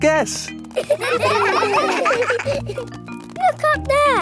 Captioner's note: children laughing